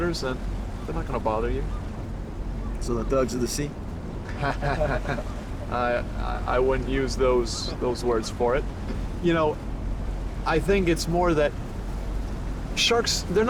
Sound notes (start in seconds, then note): 4.2 Billy laughs sarcastically